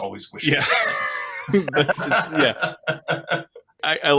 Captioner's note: laughing